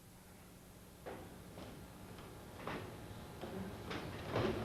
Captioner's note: footsteps